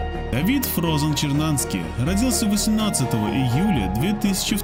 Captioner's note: reporter speaks foreign language